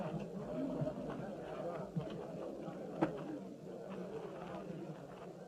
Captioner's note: crowd chattering